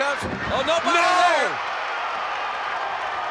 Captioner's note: applause